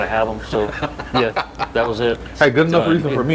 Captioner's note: laughs